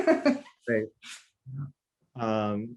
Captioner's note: laughter